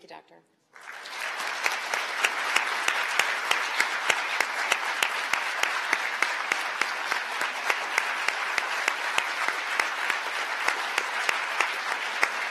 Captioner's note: applause